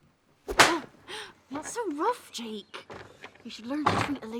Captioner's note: gasps